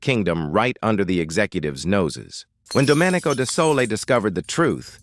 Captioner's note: SFX: glass shattering